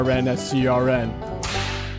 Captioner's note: whip cracks